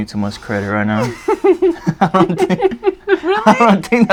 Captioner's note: laughs